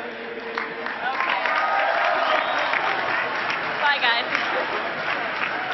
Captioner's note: cheering and clapping